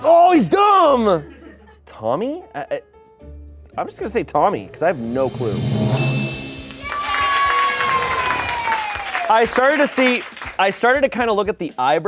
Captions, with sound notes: Oh, he's dumb!" (laughter) Tommy? I'm just gonna say Tommy because I have no clue. (bell dings) - Yay! - I started to see, I started to kinda look at the eyebrows